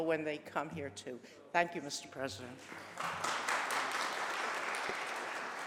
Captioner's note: applause